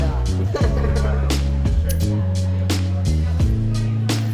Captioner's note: laughs